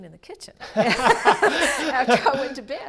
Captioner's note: laugh